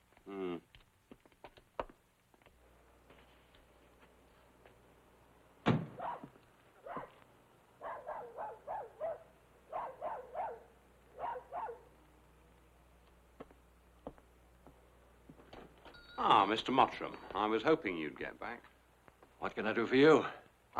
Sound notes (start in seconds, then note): 7.8 dog barking